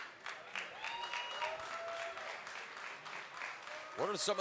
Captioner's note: cheers and applause